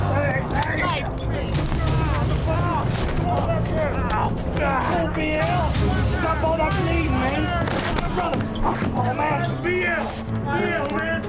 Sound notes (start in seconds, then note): 7.6 Plank’s pants ripping